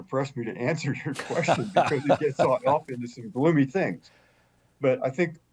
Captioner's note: chuckles